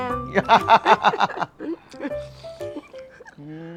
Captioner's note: both laughing